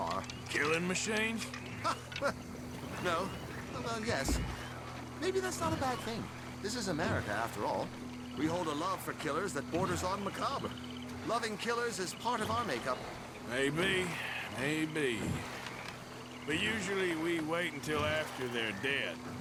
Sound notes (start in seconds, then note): 0.0 laughs